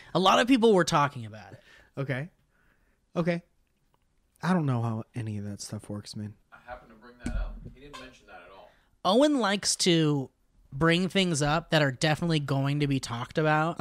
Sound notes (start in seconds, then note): 6.1 faintly from the background